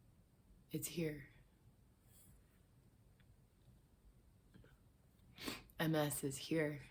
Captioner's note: sniffs